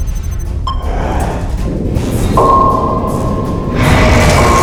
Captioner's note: ping